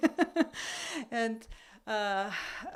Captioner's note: laugh